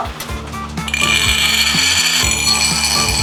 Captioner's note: sliding